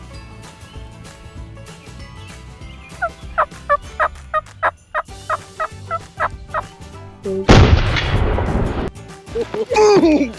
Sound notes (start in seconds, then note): 3.3 turkey calls; 7.4 gun fires